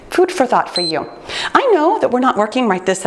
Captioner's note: timer beeps